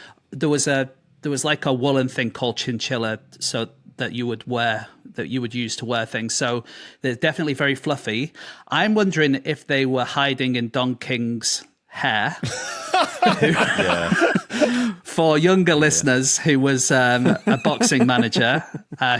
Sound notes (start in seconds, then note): 12.4 group laughing